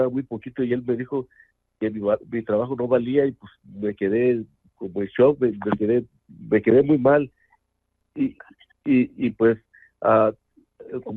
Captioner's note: speaking in Spanish